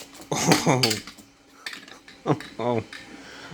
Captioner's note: laugh